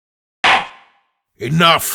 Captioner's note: slam!